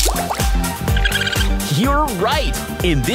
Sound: chirping

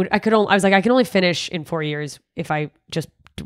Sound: none

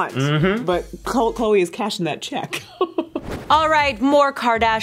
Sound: laughing

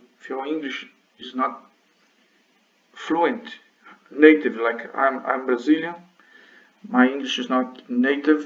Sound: none

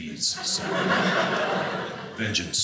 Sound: audience laughing

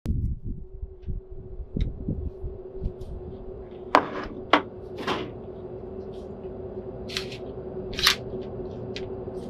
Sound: creepy sounds

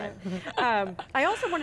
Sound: laughs

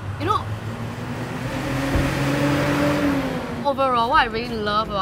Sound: noisy car sounds

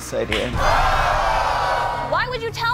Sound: crowd yelling

